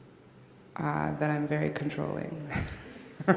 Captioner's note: laughs